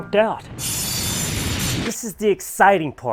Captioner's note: saw blade running